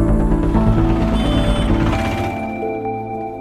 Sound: commotion

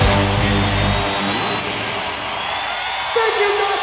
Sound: audience cheering

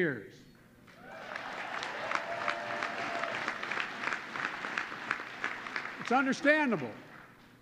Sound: applause

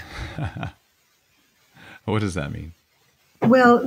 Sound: laughs

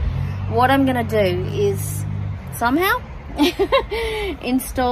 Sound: chuckles

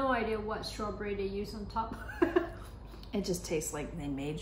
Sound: laughs

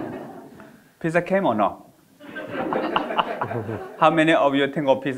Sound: audience laughing; audience laughing

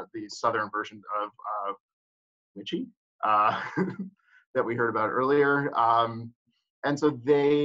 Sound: laughs

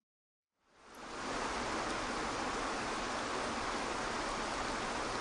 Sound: water splashing

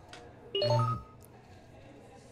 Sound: text alert, vibrate

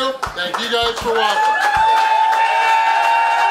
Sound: crowd cheers

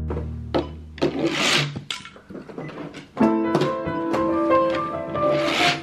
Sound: toy cars scraping plastic slide; piano music

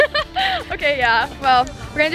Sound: laughs

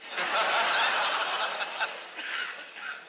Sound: laughter

